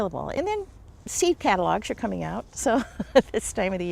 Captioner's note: laughs